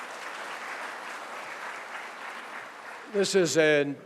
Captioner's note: applause